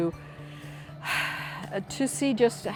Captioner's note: sighs